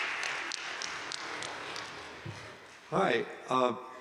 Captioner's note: applause continues